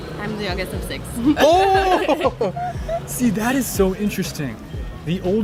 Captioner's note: laughing